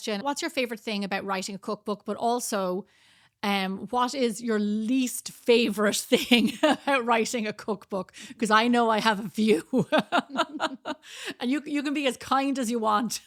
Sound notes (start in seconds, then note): 9.7 laughs